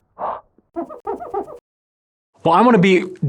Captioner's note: glass squeaking